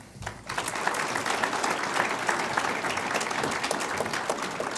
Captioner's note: audience applauds